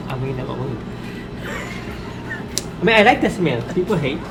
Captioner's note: laughs